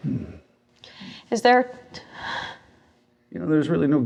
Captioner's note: gasps